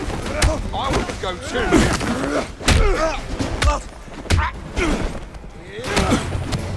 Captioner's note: groaning